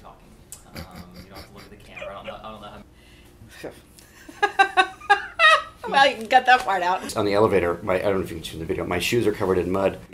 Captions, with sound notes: [laughter] Huh. [laughter] Well you can cut that part out. On the elevator--I don't know if you can see on the video, my shoes are covered in mud.